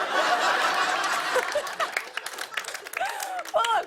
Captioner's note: laughter